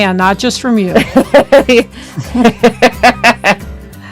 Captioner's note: laughs